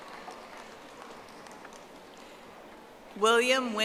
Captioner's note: audience applauding